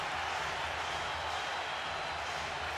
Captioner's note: crowd cheering